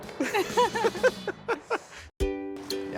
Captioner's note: laughs